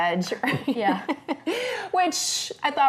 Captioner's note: laughing